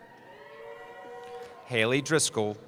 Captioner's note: cheering